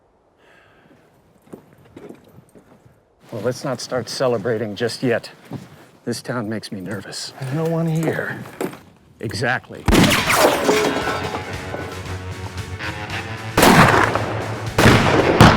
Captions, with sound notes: Well, let's not start celebrating just yet. This town makes me nervous. There's no one here. Exactly [gunshot] [gunshots]